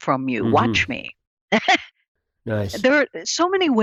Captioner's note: laughs